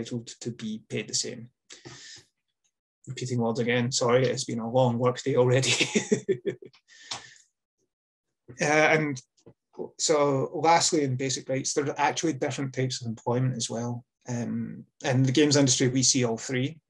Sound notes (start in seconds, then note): 5.6 laughs